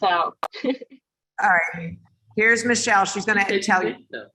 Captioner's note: laugh